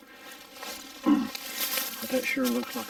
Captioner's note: leaves rustling